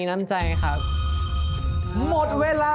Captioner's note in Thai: เสียงกริ่งนาฬิกา